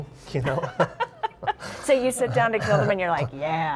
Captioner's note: laughs